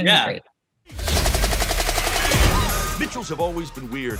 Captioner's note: flying sound effects